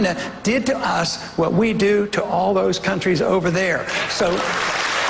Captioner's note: applause